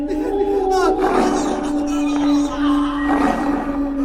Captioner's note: Demons howl and Saul screams